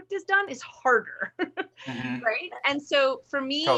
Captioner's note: laughs